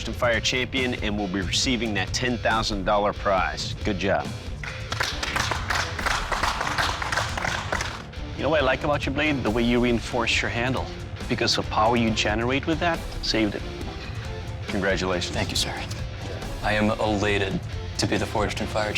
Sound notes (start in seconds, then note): 4.6 applauding